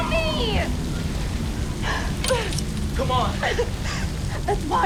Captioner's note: sighs